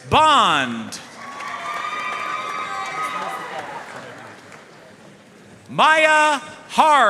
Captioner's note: audience cheering and applauding